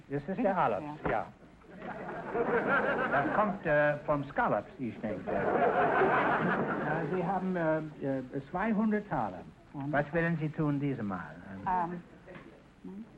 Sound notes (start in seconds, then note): 0.1 Groucho speaking German; 1.7 audience laughter; 3.1 Groucho speaking German; 5.0 audience laughter; 6.8 Groucho speaking German